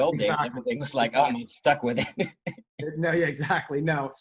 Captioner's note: laughs